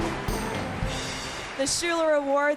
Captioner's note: cheers and applause